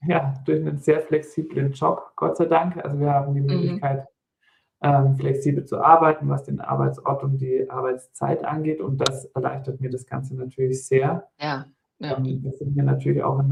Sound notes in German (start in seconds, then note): 4.8 räuspern